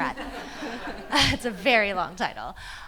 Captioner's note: people laughing